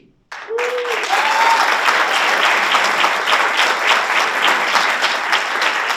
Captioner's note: audience applauds and cheers